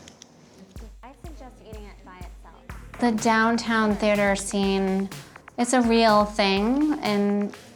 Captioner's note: narrating